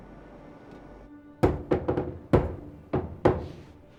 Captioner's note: knocking rhythmically